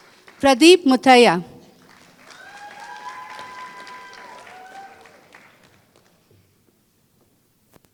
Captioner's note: applause